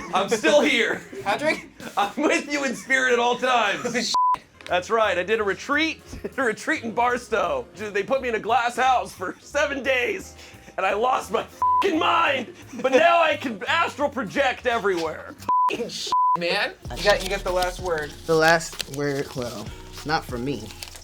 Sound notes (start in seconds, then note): 0.0 laughing; 4.1 beep; 11.6 beep; 15.5 beep